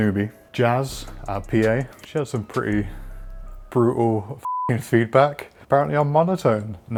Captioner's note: beep